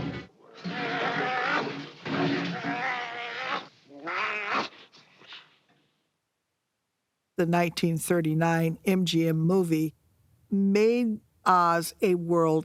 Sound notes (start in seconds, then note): 0.0 all scream; 0.0 Cowardly Lion roaring; 0.0 Cowardly Lion snarling; 4.0 snarls